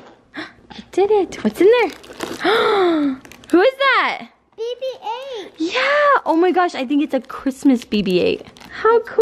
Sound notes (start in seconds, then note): 0.0 pop; 2.4 gasp